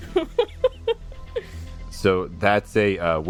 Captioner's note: laughter